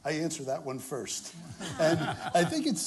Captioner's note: laughter